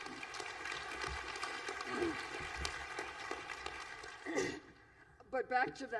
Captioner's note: applause